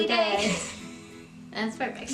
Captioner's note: laughs